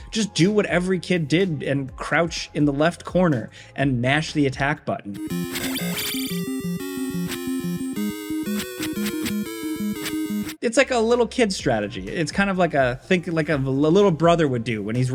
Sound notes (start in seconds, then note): 5.1 dynamic music; 5.3 attacks whooshing